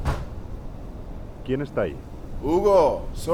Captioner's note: in Spanish